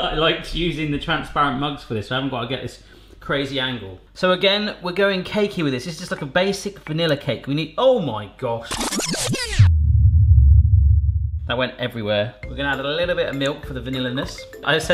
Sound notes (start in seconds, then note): 8.6 tape screeches